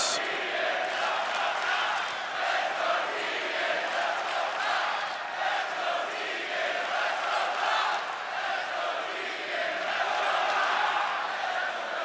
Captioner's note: crowd cheering